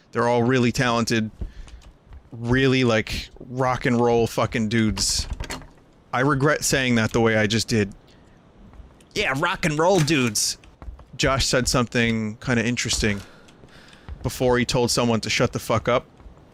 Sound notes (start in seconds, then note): 9.1 nasally voice